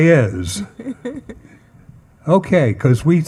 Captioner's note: panelist laughing